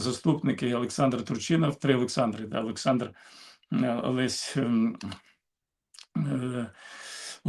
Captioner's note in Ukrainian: прочищення горла